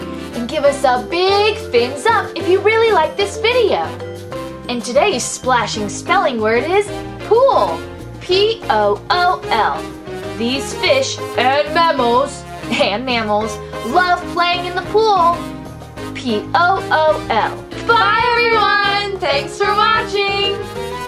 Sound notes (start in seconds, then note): 11.2 voiceover; 13.3 laughs